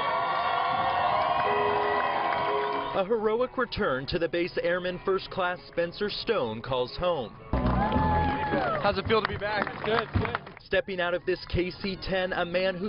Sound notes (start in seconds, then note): 3.3 applause